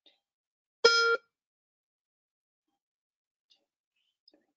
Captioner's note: tone beeps